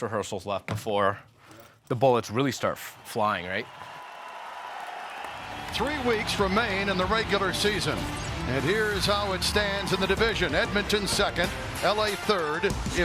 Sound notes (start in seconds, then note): 3.7 crowd cheering; 5.7 dramatic music